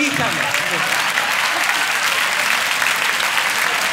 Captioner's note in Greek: χειροκρότημα